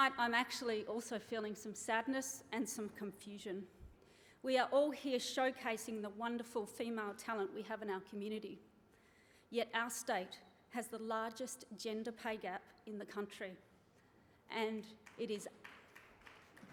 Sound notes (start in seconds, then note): 15.0 applause